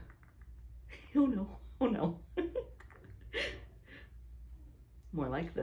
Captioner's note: laughs